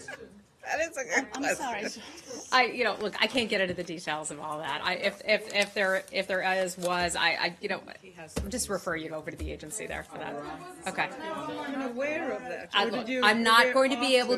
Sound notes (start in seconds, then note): 1.0 laughter